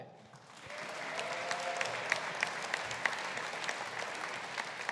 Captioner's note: audience applauding